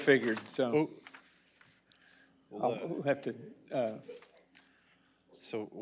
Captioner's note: laughter